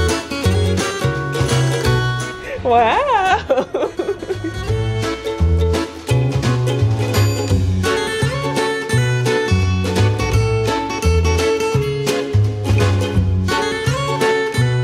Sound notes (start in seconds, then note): 2.4 laughs; 11.3 uplifting guitar music